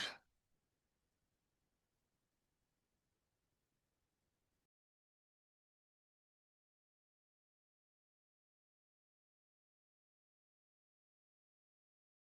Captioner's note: silence